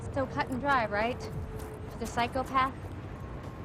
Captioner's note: none